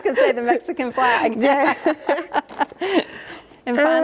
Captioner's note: laughs